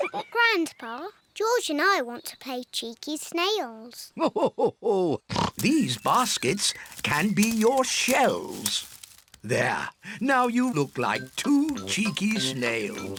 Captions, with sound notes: Grandpa, George and I want to play cheeky snails. (LAUGHS) These baskets can be your shells. There. Now you look like two cheeky snails.